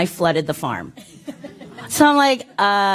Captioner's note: laughter